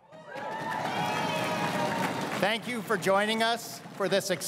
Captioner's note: crowd cheering and applauding